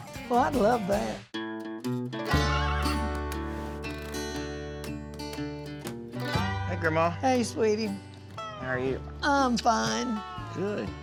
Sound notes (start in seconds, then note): 2.3 horse neighs